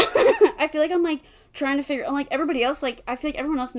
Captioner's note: laughs